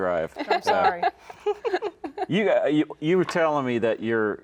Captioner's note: laughs